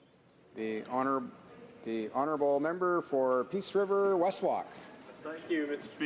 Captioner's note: speaking French